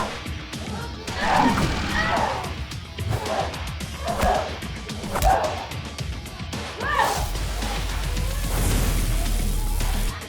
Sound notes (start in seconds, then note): 7.4 zapping